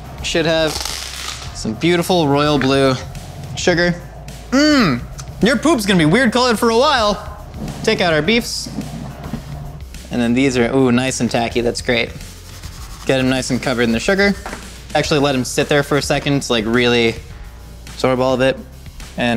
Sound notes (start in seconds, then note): 4.8 humming